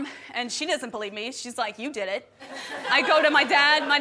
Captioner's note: guests laughing